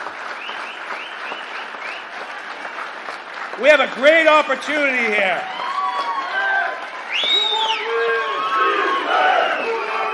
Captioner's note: applause